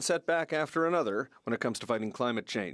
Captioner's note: speaking French